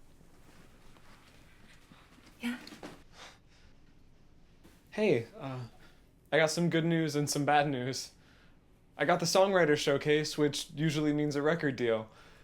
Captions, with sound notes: (feet shuffling) - Yeah? - Hey, I got some good news and some bad news. I got the songwriter showcase, which usually means a record deal.